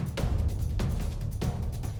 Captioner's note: none